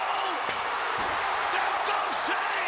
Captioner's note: audience cheering; chair thuds